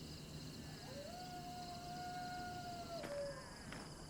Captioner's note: crickets chirping; coyote howling in distance